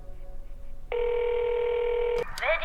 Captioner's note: phone rings